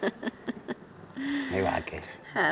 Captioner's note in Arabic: يضحك